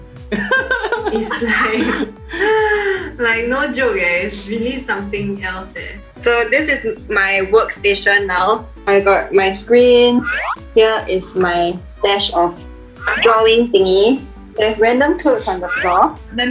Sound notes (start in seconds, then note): 0.3 laughs; 2.3 gasp